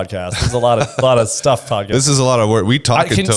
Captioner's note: laughs